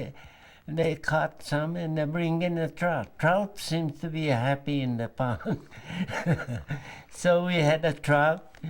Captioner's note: laughter